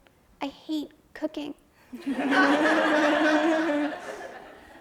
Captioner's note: audience laughs